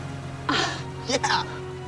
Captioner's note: moan